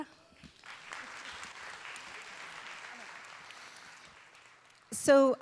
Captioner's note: audience and performers applaud